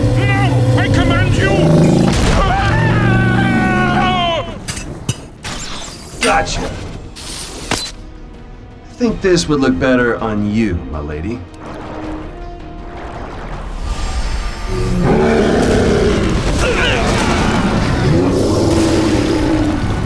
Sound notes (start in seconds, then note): 2.2 screams; 14.6 roars; 17.0 groaning